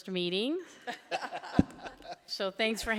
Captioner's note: laughing